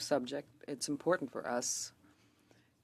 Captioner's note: speaking French